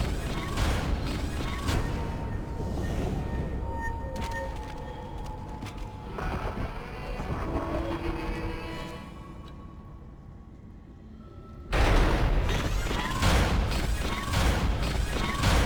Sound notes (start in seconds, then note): 0.0 gunshots; 11.8 gunshots